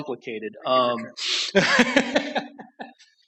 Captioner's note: laughter